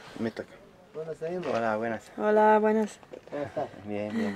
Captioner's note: in Spanish